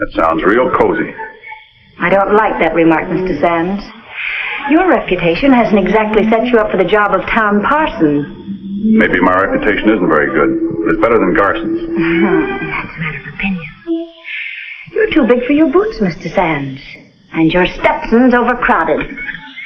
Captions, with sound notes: - That sounds real cozy. - I don't like that remark, Mr. Sands. Your reputation hasn't exactly set you up for the job of town parson. - Maybe my reputation isn't very good, but it's better than Garson's. - (scoffs) That's a matter of opinion. You're too big for your boots, Mr. Sands, and your Stetson's overcrowded.